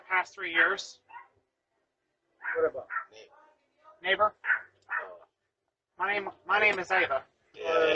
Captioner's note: Ella continues barking